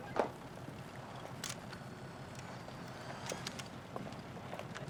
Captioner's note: camera clicking